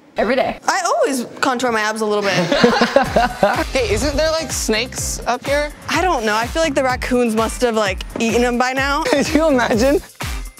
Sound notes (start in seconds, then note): 2.2 laughs